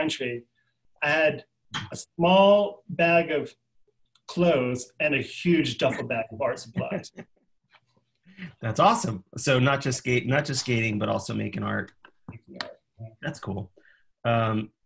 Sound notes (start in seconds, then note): 6.6 laughing